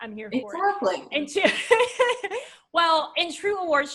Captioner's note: laughs